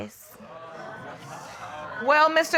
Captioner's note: audience exclaiming